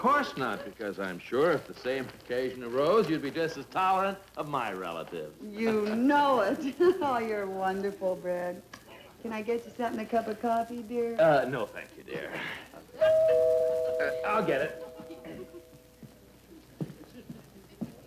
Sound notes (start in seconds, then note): 13.0 bell rings; 15.0 audience laughing